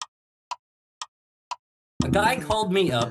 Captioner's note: clock Ticking